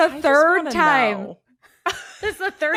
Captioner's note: laughs